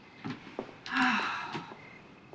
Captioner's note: sighs